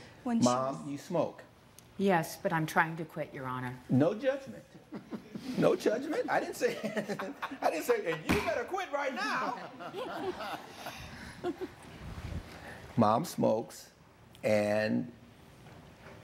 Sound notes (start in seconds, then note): 4.8 audience laughing; 9.3 bangs; 10.6 laughing